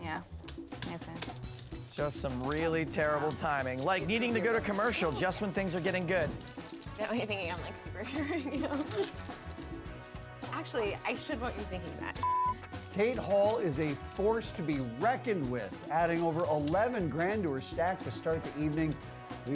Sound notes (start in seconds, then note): 7.9 laughs